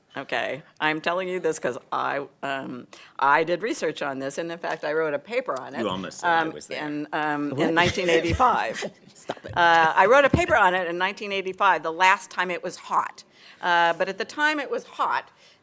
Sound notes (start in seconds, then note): 7.6 laughter